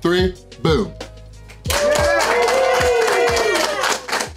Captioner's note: crowd cheering